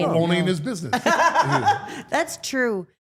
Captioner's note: Steph laughing